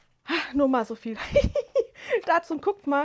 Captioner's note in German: gelächter